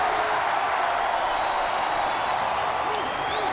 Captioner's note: crowd cheering